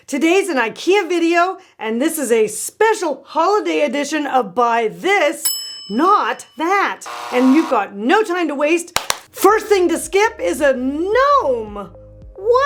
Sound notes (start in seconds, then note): 5.5 bell dings; 7.0 buzzer buzzes; 8.9 hands clap